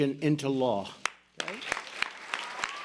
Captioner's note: applause